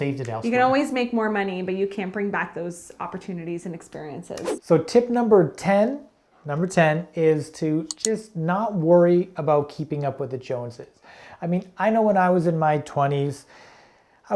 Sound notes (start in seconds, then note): 4.4 air whooshing